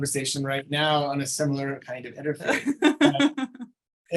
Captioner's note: laughing